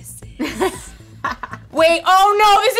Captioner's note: quiet laughter